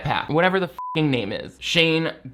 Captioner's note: beep